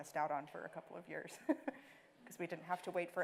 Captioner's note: laughing